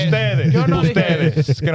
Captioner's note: speaking In Foreign Language